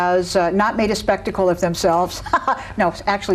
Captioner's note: laughs